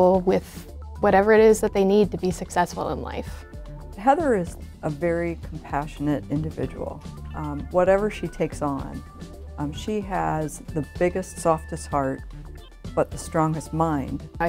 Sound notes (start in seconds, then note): none